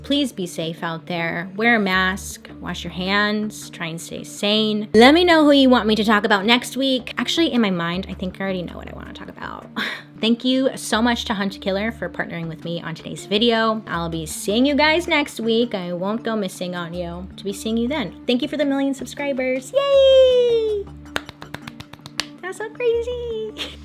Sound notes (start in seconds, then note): 21.1 claps